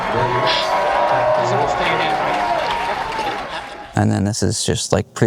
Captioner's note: contestant laughs; audience applauds; audience cheers; Drew speaks faintly